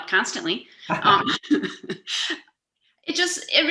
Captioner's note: laughing